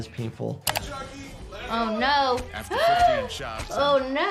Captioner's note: gasps